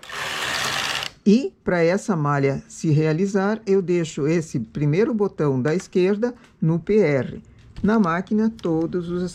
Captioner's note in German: Reißen